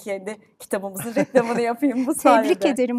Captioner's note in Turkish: kahkaha